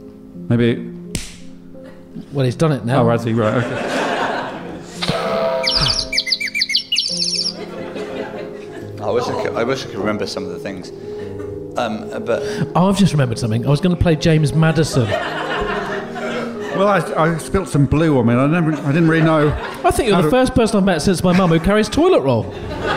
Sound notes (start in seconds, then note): 1.3 claps; 5.7 sfx: spring/ thump, and birds whistling